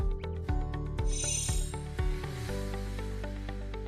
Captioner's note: chiming